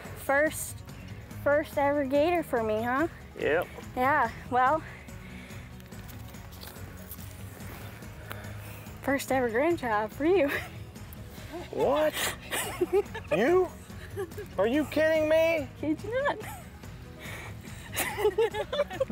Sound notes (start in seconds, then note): 4.7 playful music; 12.4 giggling; 17.8 laughing; 17.9 giggling